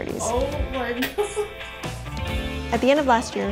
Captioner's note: laughs